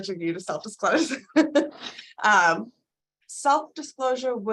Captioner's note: laughing